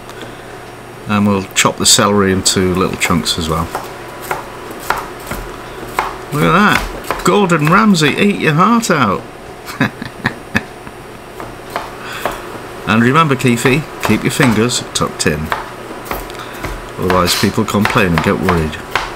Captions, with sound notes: Then we'll chop the celery into little chunks as well. [ CHOPPING ] Look at that - Gordon Ramsay eat your heart out! [ LAUGHS ] And remember Keefie, keep your fingers tucked in. Otherwise people complain and get worried.